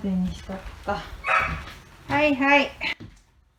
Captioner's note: bark